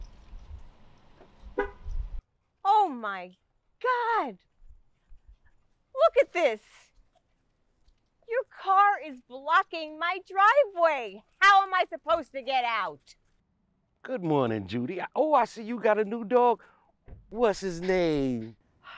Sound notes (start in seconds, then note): 1.5 car alarm beeps